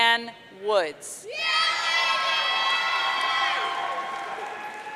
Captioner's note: audience cheering